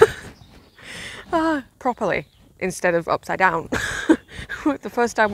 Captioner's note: laughs; laughs